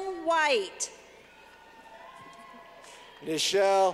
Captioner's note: clapping